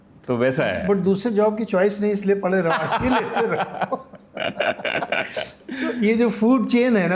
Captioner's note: laughs